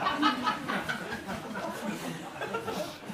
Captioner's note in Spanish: Risas